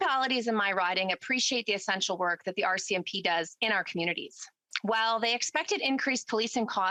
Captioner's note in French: voix de l'interprète